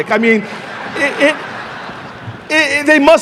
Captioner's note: audience laughing